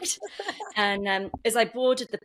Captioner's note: laughs